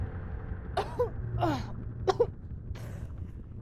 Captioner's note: coughing